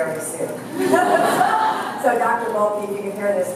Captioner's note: laughter